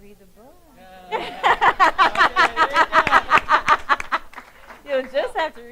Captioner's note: laughing; clapping